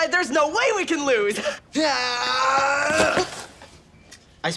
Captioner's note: screams